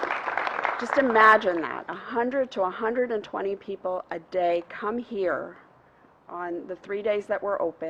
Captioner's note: applause